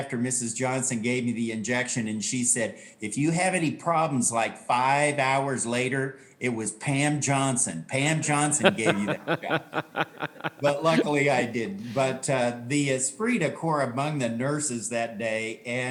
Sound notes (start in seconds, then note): 8.6 laughing